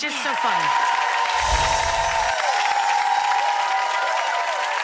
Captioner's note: audience applauding